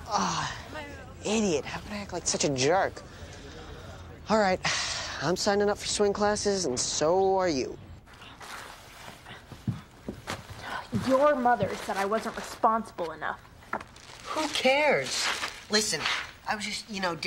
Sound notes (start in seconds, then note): none